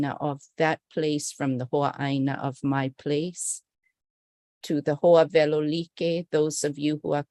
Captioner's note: non-english speech